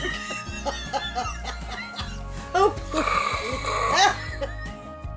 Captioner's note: laughter